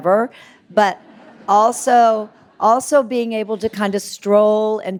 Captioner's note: audience laughing